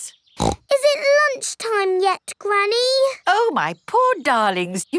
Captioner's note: snorts